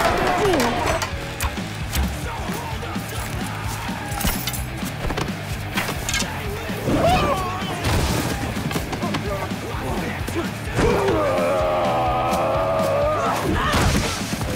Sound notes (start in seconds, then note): 6.8 Archer Yells